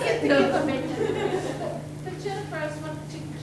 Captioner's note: everyone laughing